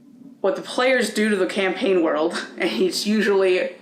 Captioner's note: laughing